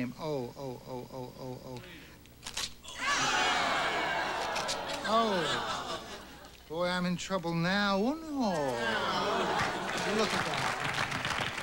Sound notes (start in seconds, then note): 2.8 audience screaming